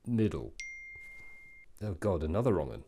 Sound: ping

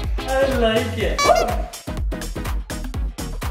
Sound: upbeat music; exclaims

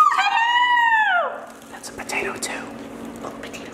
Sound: whispers; kisses; whispers

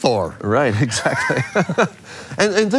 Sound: both laugh

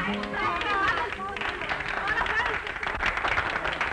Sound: applause

